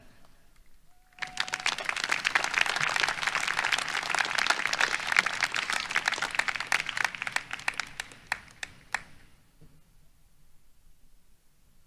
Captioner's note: applause